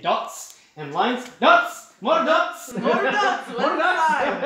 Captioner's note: chuckling